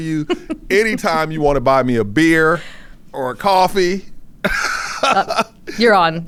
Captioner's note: chuckles; laughs